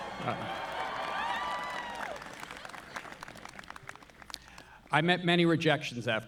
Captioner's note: Noah laughs; audience cheering; audience applauding